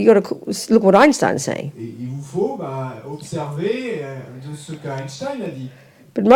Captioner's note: audience member speaks in French